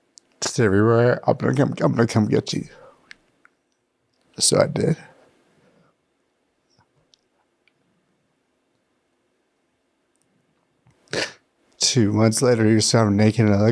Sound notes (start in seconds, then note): 5.0 laughs